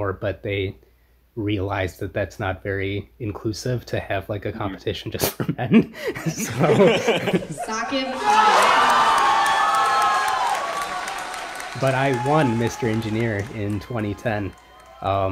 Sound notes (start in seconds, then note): 5.3 both laugh; 8.8 crowd cheers